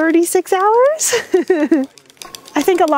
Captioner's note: laughs